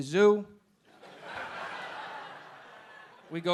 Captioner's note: audience laughing